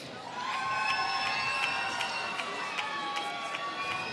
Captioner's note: applause